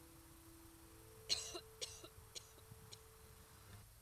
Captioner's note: coughs